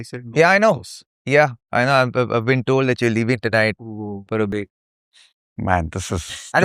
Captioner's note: snorts